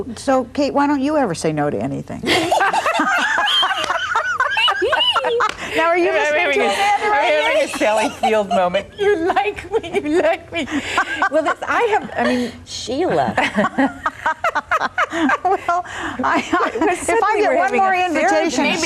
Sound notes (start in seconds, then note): 2.6 all laughing; 13.0 laughing